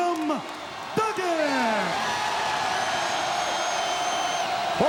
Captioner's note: crowd cheers